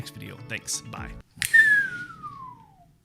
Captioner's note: whistling